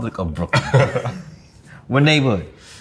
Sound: RJ laughs

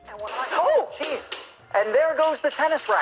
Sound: sound of TV breaking

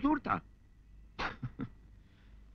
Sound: chuckles

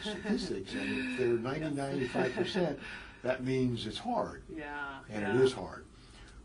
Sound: laugh

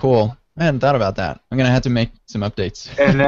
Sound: laughs

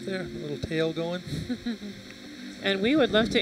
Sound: chuckles

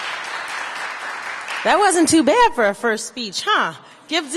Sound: applause

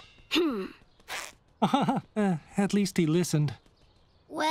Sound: laughs awkwardly

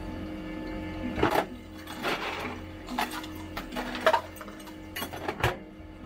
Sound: the sound of ice in an ice glass

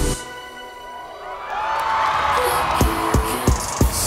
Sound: audience cheering

